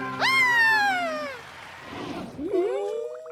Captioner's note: applause